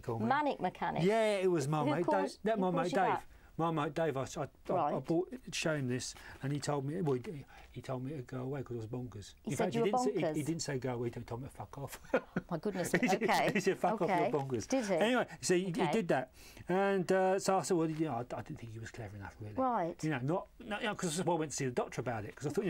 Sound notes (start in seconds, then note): 12.8 laughs